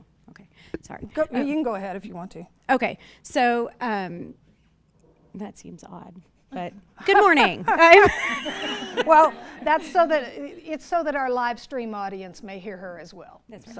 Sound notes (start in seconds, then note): 7.4 laughs